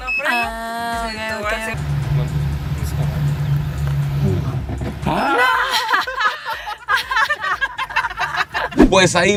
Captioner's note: nervous laughter